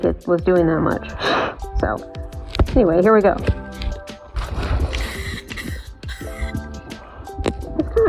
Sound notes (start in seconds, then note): 4.4 aerosol sounds